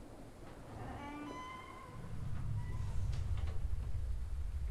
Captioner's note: door creaking